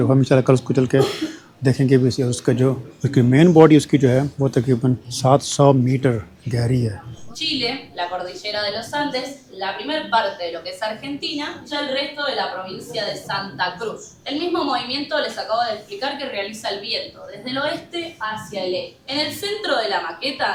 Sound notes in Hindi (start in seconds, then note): 7.4 स्पेनिश में बोलते हुए